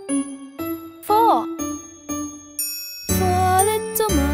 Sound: chime ringing

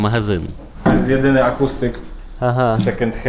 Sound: man is speaking Polish

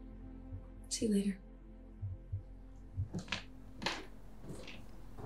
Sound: footsteps continue

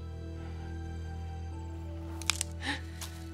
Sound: twig snaps

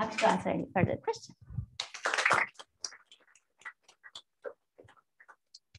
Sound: applause

